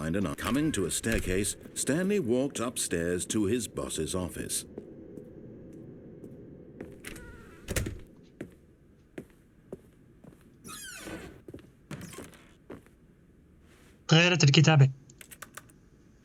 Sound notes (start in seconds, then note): 5.1 door closes; 6.8 door creaks; 10.7 door closes